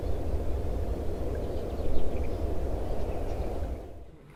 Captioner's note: chirping continues